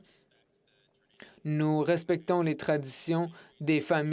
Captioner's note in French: voix de l'interprète